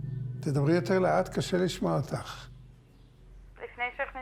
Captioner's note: speaking foreign language